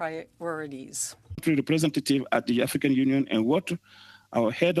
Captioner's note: speaking French